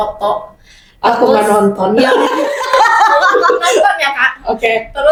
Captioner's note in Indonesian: tertawa